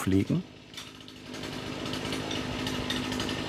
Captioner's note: A chainsaw rattles